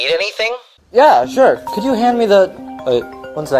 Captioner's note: phone ringing